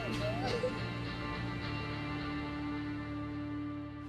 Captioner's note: crying